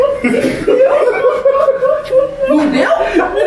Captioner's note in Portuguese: risadas